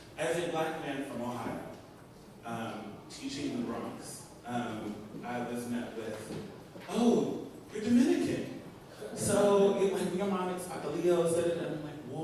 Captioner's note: spanish language